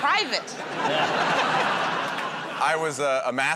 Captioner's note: laughter